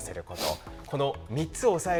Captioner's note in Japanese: 鼻息